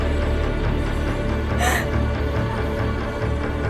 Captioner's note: sobs